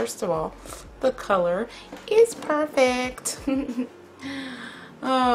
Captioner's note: amused snicker